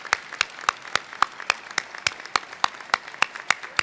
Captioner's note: applause